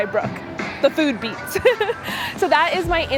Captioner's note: laughs loudly